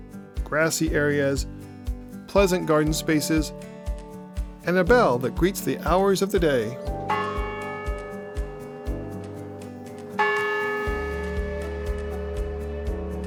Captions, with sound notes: grassy areas, pleasant garden spaces and a bell that greets the hours of the day. [Bell chimes twice]